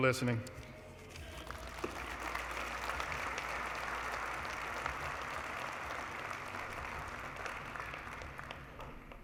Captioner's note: applause